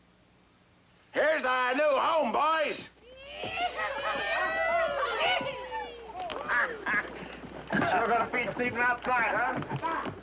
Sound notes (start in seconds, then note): 3.1 all hooting and hollering